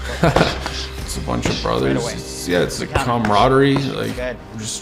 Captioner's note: chuckles